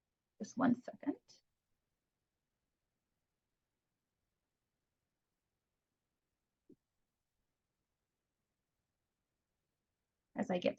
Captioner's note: silence